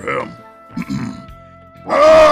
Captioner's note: clears throat